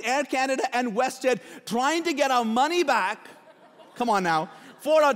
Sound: laughing

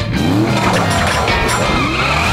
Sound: metal clanking

